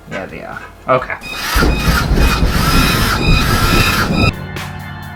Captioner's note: psycho Sounds; halloween Music